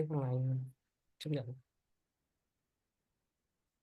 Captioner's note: silence